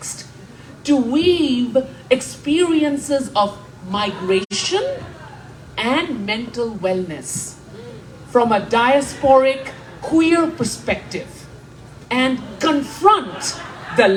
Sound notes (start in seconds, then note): 9.4 laughter